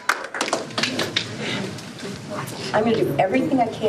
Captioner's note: applause